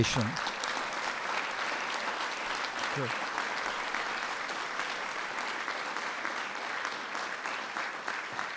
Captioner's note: applause